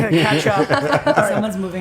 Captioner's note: laughter